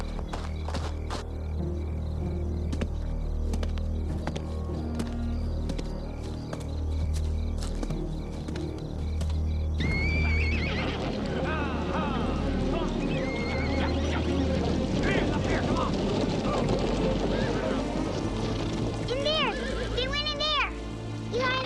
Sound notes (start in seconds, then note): 0.1 leaves crunching; 0.2 tense plodding music; 9.8 horses whinnying; 10.0 tense music quickens; 14.5 hooves thundering; 14.5 posse yelling